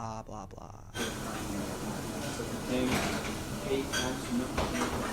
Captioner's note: patrons chatter